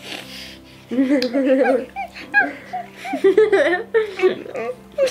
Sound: whimpering sounds

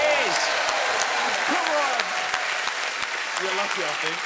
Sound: cheering

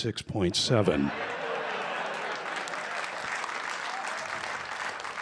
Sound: laughter, applause

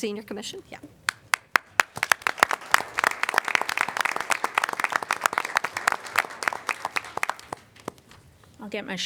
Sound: applause

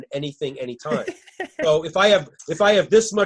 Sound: laughing

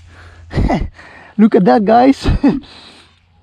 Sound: chuckling

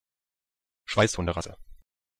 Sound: fast Pronunciation

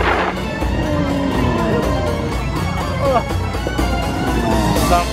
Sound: camel groaning

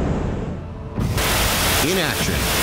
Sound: gun firing

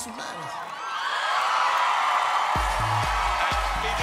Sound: crowd applause

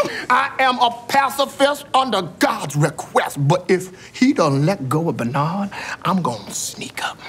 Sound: none

